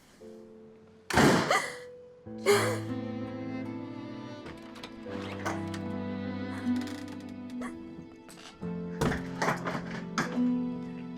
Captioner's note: crying